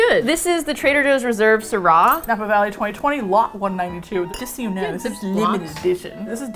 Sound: playfully haughty

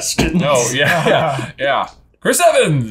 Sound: both laughing in agreement

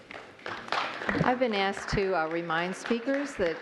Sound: applause

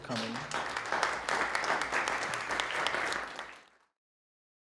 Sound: audience clapping

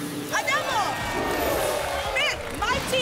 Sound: applause

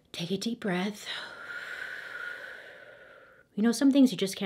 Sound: breathes deeply

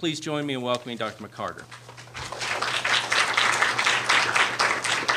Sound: applause

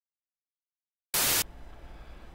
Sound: Static

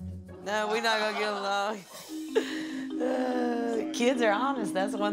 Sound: laughs

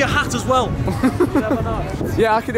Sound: laughing

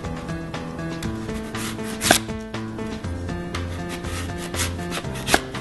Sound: chopping

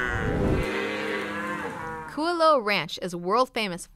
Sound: mooing

